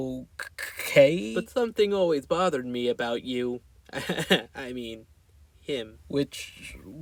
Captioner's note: laughs